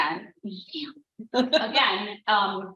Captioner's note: laughs